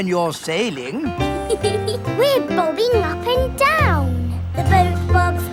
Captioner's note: giggles